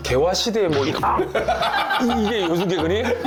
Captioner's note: chomp